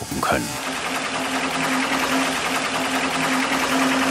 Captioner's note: rattling